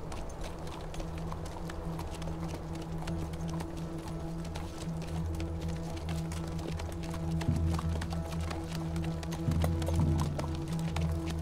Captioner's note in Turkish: Atların ayak sesi